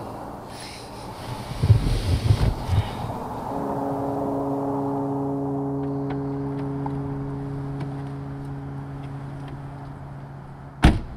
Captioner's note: sighs; door bangs